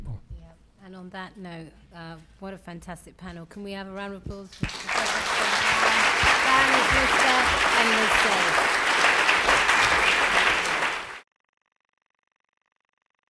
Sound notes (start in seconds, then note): 4.5 applause